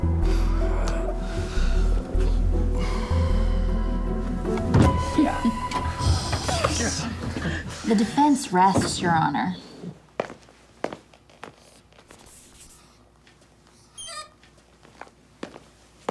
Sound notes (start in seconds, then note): 5.6 chuckling; 13.9 squeak